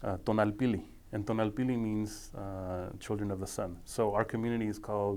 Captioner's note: speaking foreign language